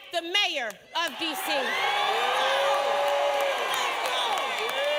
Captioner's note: applause